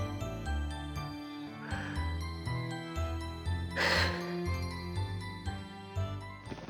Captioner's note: sigh